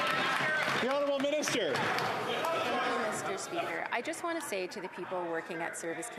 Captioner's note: applause